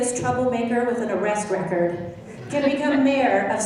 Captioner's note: laughing